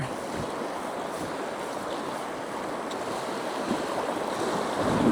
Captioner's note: water splashing